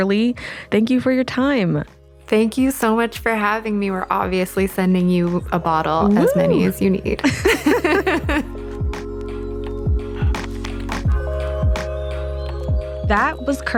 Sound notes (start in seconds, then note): 8.8 both laughing; 10.9 gentle music